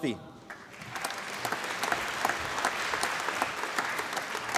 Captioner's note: applause